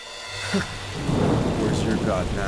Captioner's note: scoffs